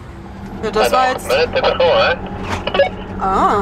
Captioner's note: over the radio